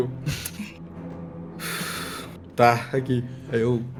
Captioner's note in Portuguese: Suspiro